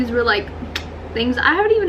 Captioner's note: clicks tounge